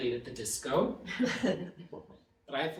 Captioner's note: audience laughing